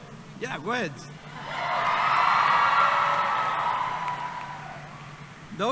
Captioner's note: cheering